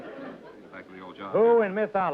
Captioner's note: mumbling